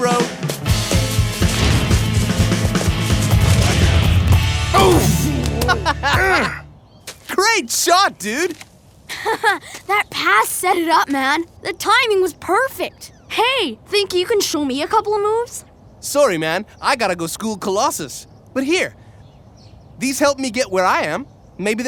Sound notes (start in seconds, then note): 0.0 upbeat rock music; 4.7 laughing; 6.1 grunting; 9.0 laughs